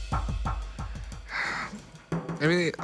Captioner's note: sigh